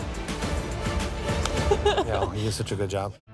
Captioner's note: laughing